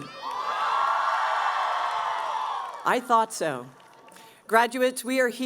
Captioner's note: cheering